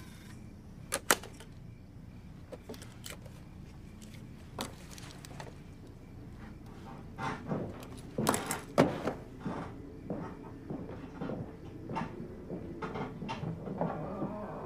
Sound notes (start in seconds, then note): 7.3 footsteps